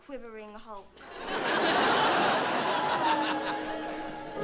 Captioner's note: laughter; soft music